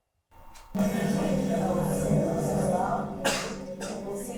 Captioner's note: distorted audio playing